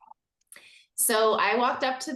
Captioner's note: says this quietly